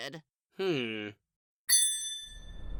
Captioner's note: ding!